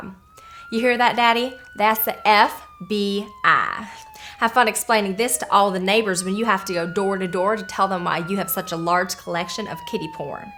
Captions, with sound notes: [POLICE SIREN] You hear that, Daddy? That's the F.B.I. Have fun explaining this to all of the neighbors when you have to go door to door to tell them why you have such a large collection of kiddy porn.